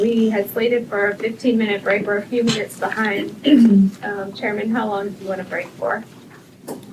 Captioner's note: clears throat